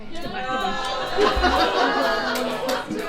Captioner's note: audience goes "No!"